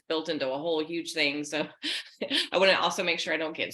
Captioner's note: laughing